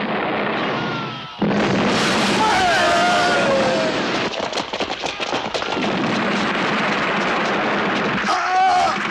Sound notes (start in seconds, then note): 1.3 explosion; 5.6 gunfire